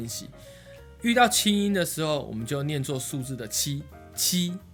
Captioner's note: normal tone